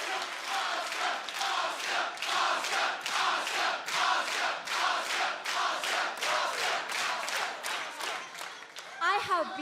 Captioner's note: audience chanting